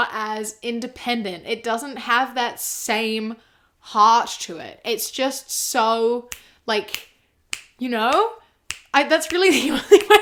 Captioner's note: snaps fingers